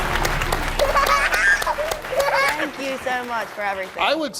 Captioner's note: intro music; children giggling